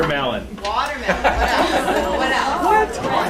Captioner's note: laughter